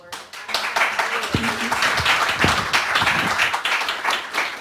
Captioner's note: audience clapping